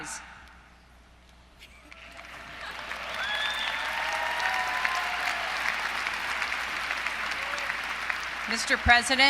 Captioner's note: applause